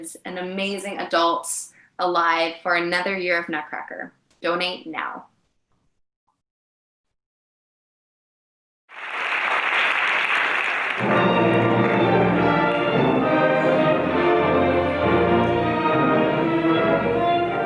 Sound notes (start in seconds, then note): 8.9 audience applauding; 10.9 lively orchestral music